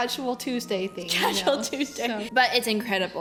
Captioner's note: laughs